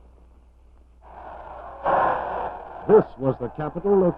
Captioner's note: crowd loudly shouting